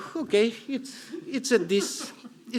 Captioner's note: chuckling